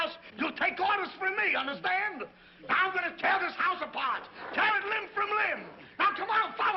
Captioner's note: none